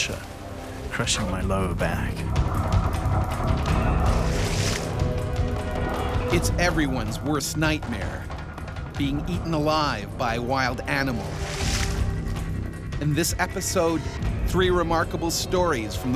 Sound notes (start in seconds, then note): 7.0 voiceover